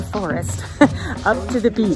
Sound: giggle

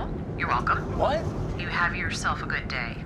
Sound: on phone

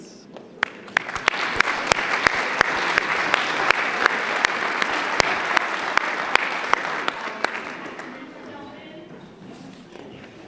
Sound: applause

